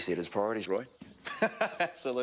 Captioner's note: laughing